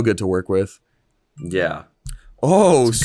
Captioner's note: phone beeps